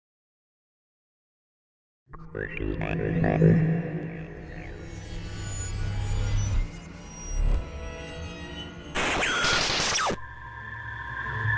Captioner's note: sound Effects